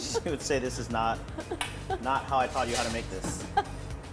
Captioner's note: laughter